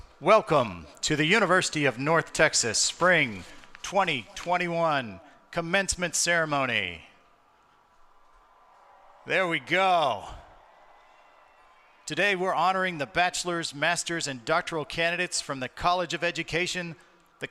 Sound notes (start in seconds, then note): 7.3 audience cheering